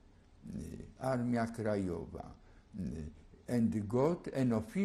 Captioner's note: non-english